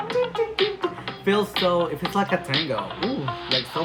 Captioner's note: makes guitar noises